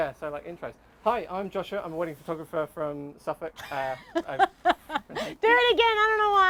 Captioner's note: they laugh